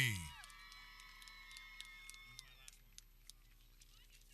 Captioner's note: people cheering